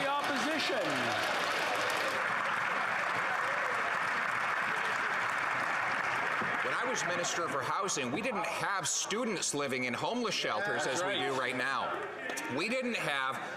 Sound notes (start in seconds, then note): 6.1 some Applause